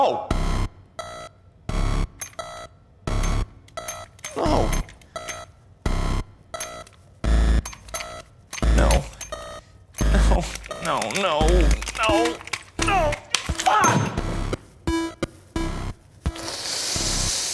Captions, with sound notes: No! (clicking remote) No, no, no, no! No, no, fuck! (exasperated sighing)